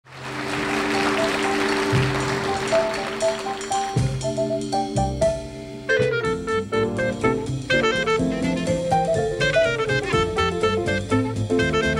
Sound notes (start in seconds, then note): 0.0 audience applauding; 1.0 upbeat jazzy music